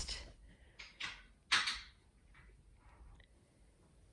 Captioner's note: soft rattling